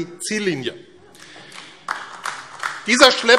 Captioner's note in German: Beifall AfD